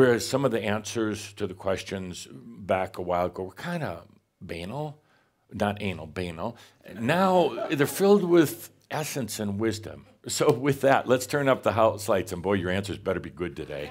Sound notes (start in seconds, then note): 5.6 some chuckles; 13.7 more laughter